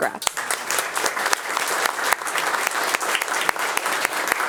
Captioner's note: attendees applauding